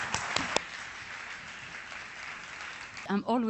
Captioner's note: applause